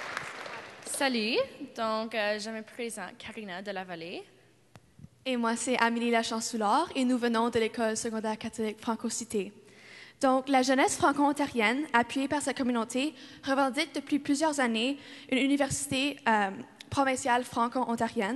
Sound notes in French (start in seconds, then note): 0.0 Applaudissements